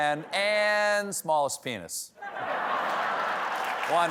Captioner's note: applause; laughter